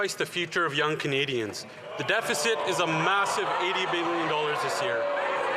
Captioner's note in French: voix de l'interprète